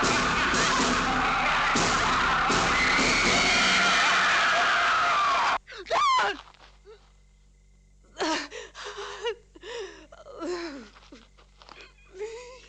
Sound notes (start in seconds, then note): 2.5 woman screaming; 8.1 sobbing